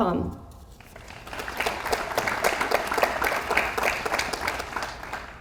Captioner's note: audience applauds